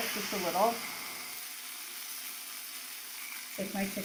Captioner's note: chicken sizzling